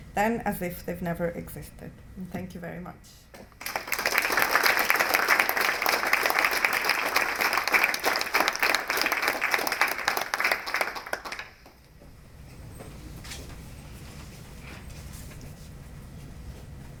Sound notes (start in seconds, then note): 3.5 applause